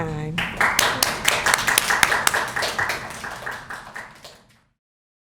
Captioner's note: applause